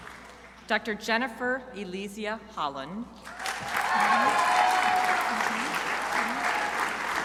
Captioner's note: crowd applauding